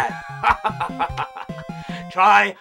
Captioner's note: Ninja laughs